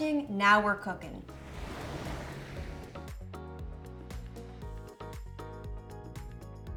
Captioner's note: upbeat music; ocean lapping